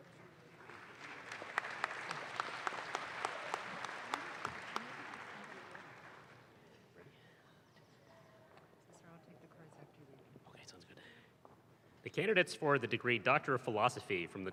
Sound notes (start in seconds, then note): 0.0 audience claps